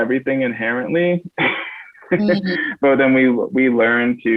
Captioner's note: laughs